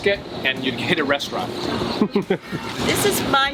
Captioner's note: laughs